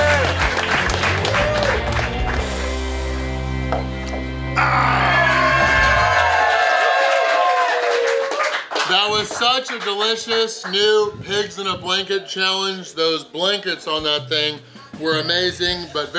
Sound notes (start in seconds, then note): 3.7 cup slams; 4.5 crowd cheers; 4.6 grunts; 4.6 crowd applauds